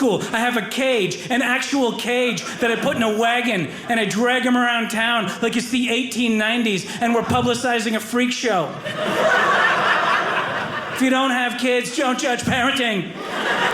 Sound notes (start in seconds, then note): 8.8 audience laughing